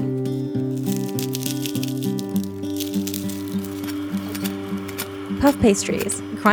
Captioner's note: very muted eating noises, scraping